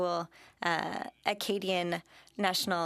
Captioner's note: speaking French